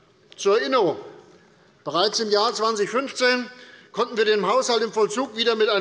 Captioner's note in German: none